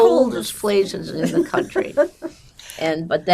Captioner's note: laughing